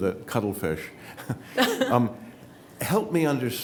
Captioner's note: laughs